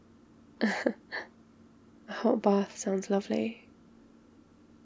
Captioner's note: laughs